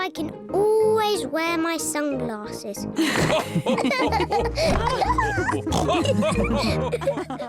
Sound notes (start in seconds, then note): 3.0 all laughing